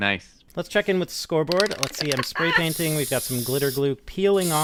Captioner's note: spraypaint sounds